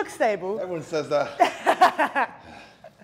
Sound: laugh

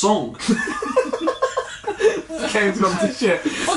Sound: laughing

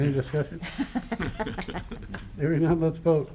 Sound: laughter

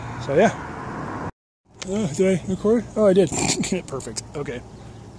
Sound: snort

